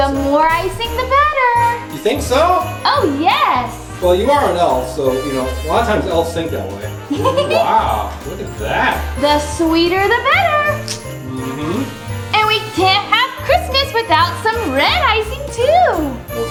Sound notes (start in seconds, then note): 7.0 giggles